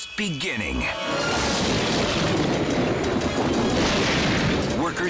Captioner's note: thunder booms